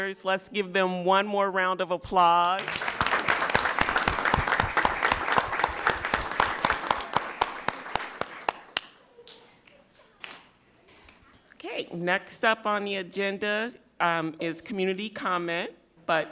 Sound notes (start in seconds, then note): 2.5 audience applauds